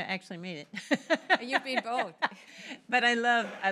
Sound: laughter

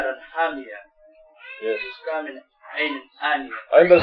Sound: speaking Arabic

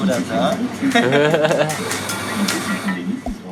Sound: laugh

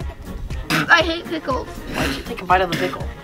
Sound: spitting

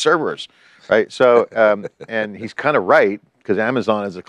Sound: chuckling

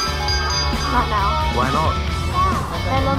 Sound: ringing the bell

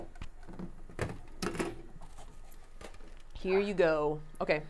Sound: plastic rustling

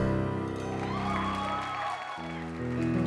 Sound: applause

